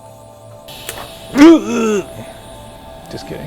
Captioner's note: air hisses softly; exclaims dramatically